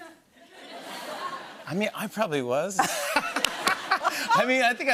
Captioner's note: laughter